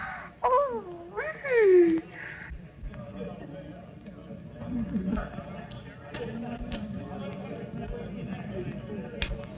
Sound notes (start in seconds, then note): 0.6 gasps; 2.9 guests chattering